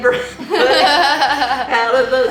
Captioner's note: laughing